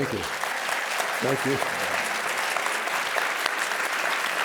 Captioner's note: applause